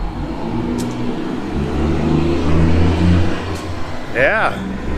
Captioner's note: truck engine humming